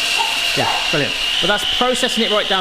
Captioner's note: dog barks